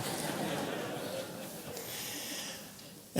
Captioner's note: audience laughs